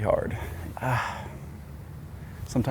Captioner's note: groans